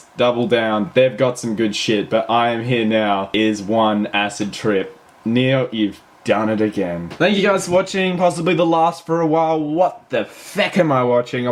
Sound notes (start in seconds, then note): none